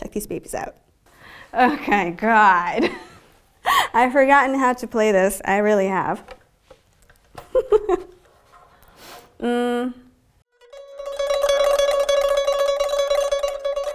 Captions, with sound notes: Check these babies out Oh my God... I've forgotten how to play this I really have (Laughter)... mmm...